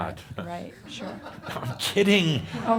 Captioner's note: some chuckles